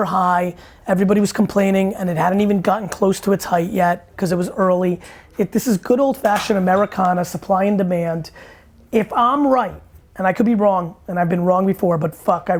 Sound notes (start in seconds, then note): none